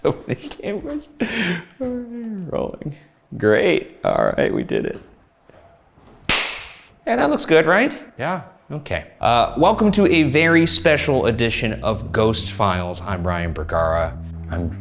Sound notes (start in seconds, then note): 6.3 hands clap